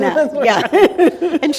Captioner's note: laughter